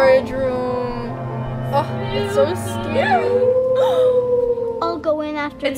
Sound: gasps

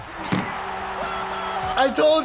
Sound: horn blares

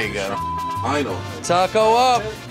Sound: beep

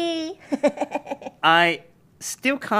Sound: laughs

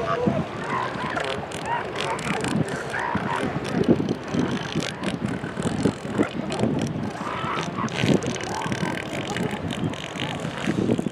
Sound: elephant seal calls and grunts

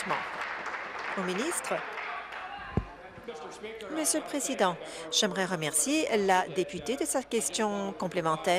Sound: applause

